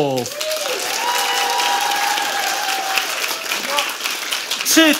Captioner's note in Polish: oklaski publiczności